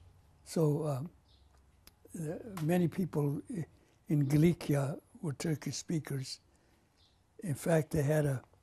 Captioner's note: pauses for 3 seconds; non-english